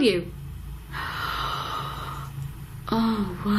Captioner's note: gasps